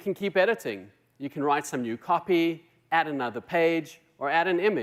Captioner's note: none